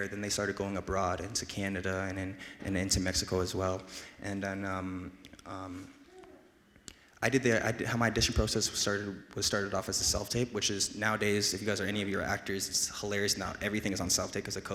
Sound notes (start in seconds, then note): none